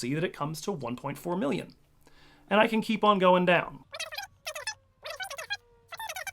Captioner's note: fast forward sounds